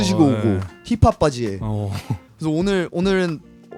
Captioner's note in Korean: 웃음